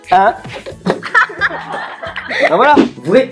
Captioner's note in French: Rires